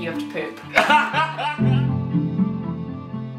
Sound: laughing; gentle music

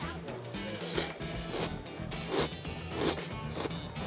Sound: slurping sounds

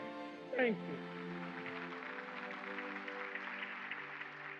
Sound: applause

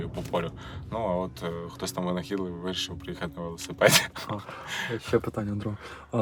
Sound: laughter

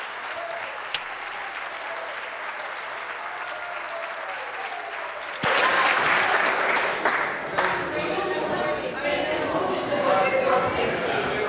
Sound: applause

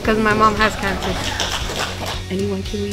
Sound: people applaud

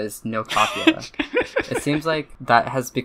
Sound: laughs

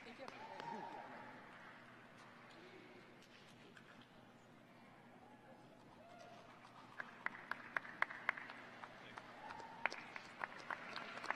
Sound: applause

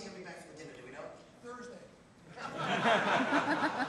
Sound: laughter

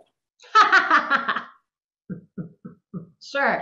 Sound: laughing

